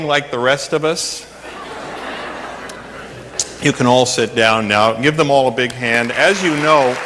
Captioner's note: clapping